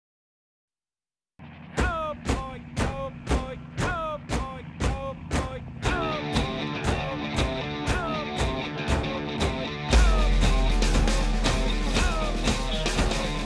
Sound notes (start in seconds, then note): 2.1 drill instructor chanting; 5.8 upbeat music